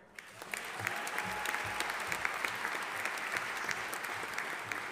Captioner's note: audience applauding